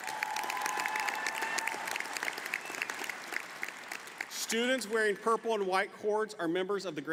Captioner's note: applause